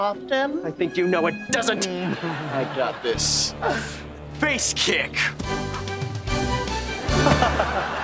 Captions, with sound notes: I think you know it doesn't! - I got this. - Uh. Face kick! [laughing]